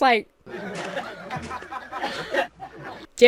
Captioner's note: crowd coughing and laughing